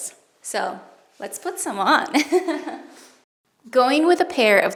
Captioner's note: chuckles